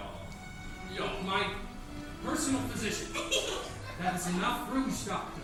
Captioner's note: Ernestina giggles